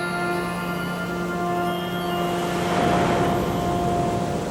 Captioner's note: waves crushing